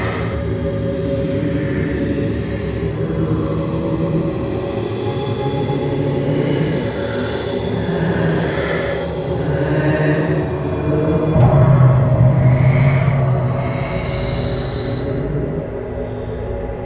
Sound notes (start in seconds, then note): 11.4 low, heavy knock sound